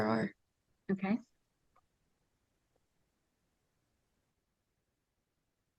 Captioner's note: sounds stop